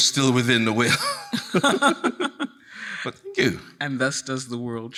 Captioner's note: chuckles